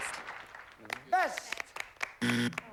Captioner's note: buzzer